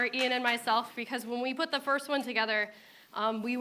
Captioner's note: applause